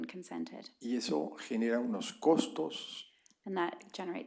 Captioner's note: spanish